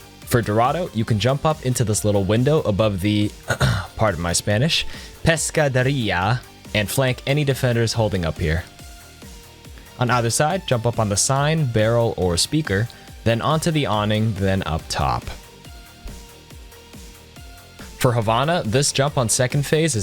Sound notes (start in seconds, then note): 3.4 ahem